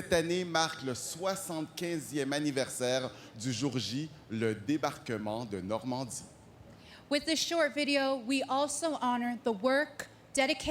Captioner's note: speaking french